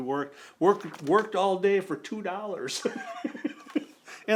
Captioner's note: laughs